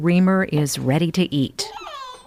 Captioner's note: baby squeal